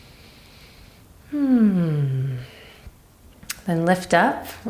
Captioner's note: breaths deeply